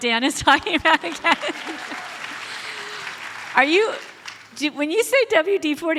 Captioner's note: audience applauds